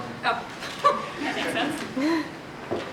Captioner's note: laughs